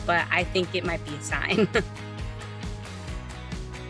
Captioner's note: chuckles; upbeat music